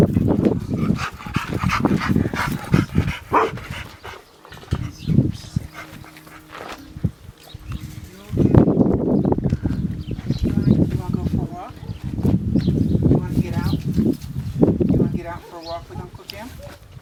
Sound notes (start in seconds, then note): 3.1 dog barks